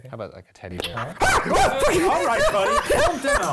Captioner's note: shrieking